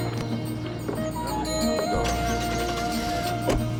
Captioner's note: engine turns over